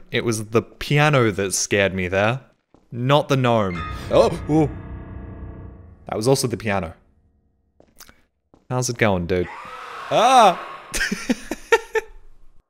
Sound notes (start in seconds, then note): 3.5 piano; 9.4 Gnome screams; 10.4 laughs